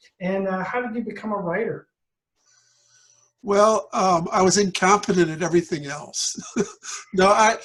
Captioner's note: laughter